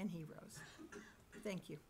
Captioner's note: coughing